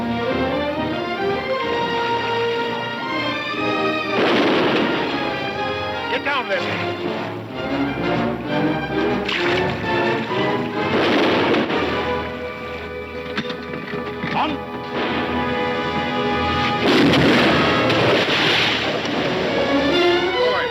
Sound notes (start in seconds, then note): 0.2 adventurous music; 4.0 gun firing; 10.7 gun firing; 12.5 tense music; 16.9 cannon firing; 19.3 dramatic music